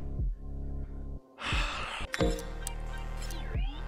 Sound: door opens; sigh

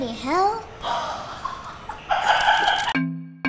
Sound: laughter; cheerful music

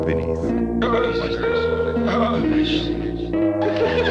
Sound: one person moaning and the murmur of several voices

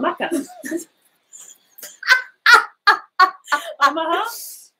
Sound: both laughing

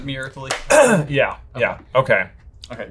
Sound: clears throat

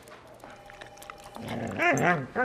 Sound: soft growl

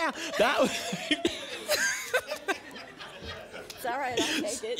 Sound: laughter

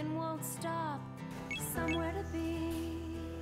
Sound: phone beeps

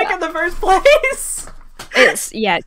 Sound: laughs

